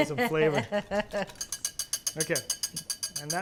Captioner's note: laughs